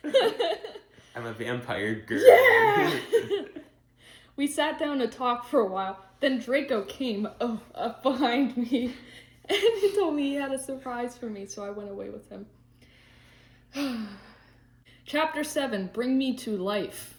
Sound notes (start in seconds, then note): 6.7 moans